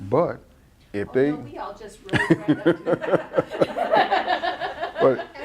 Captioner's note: laughs